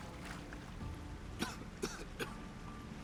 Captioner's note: coughs